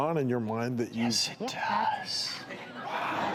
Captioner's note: whispering; laughing